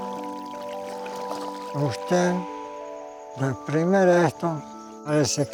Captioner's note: speaking Spanish